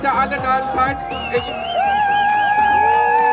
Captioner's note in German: Jubel